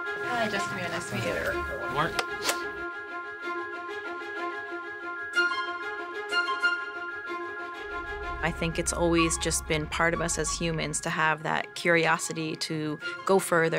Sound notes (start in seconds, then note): 2.2 clapper clicking